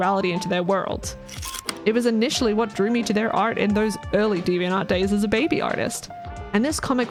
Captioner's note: projector slide click